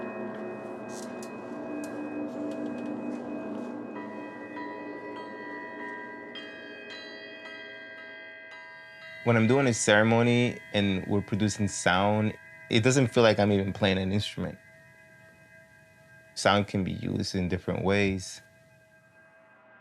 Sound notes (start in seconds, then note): 3.9 bell chimes repeatedly